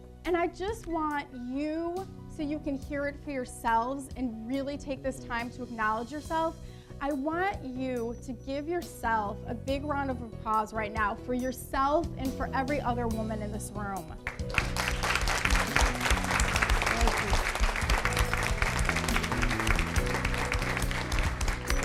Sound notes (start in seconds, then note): 14.2 audience and speaker applaud